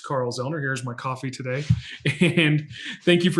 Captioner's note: laughs